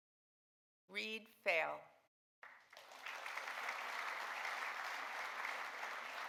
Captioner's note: audience applauding